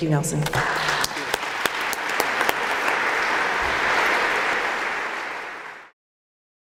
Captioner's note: applause